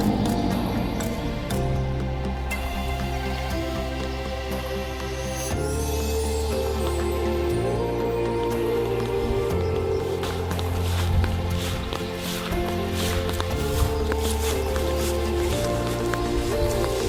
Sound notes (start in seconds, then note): 0.0 dinosaur growling; 0.3 gentle music; 9.7 grass crunching; 13.6 gentle music continues